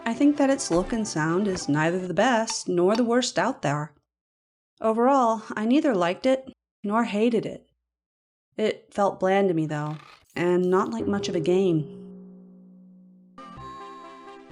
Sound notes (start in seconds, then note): 9.8 strained creak; 9.9 bouncy crash